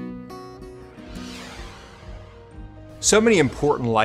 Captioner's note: soft swishing